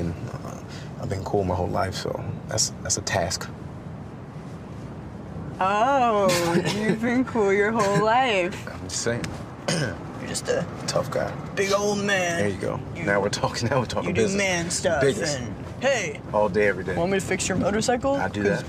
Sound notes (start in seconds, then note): 7.6 chuckles; 9.6 clears throat; 13.4 in manly voice